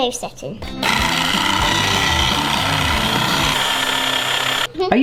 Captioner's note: upbeat music; whisk whirring